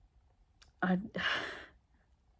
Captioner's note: sighing